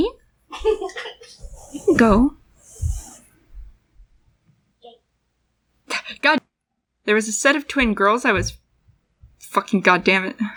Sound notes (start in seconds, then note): 0.5 laugh; 5.7 scoff; 7.7 stomp